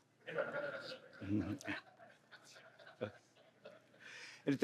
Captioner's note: laughter